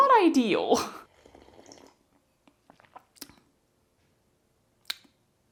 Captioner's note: quiet drinking sounds